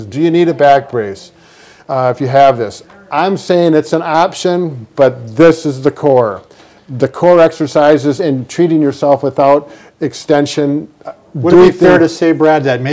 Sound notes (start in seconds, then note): none